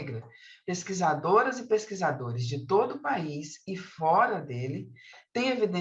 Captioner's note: continues speaking in Portuguese